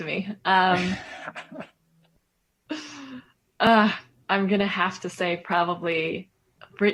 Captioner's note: laughter